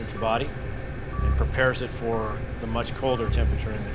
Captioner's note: cryo chamber beeping